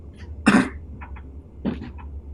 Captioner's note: coughs